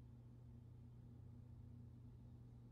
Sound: none

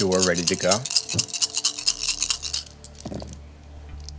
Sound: dice rattling

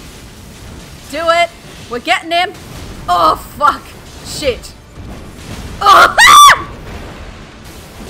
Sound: grunts, exclaims

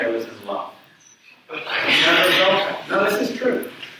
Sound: audience chuckles

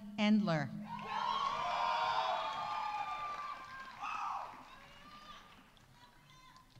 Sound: audience cheering; audience applauding

